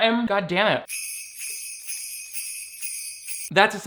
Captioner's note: bells jingle